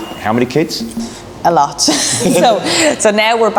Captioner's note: laughs